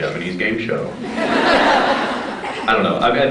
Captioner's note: laughs